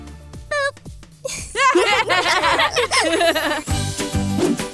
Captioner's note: laughter